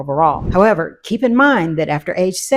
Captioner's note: wind whooshing